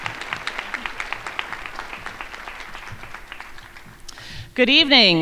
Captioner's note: crowd applauding